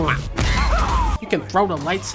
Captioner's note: R2-D2 screaming